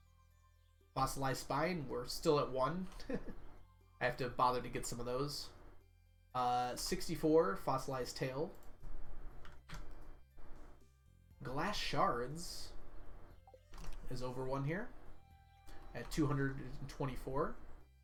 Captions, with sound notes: Fossilized Spine, we're still at 1. (laughs) I have to bother to get some of those. 64 of the Fossilized Tails. Glass Shards are at 224.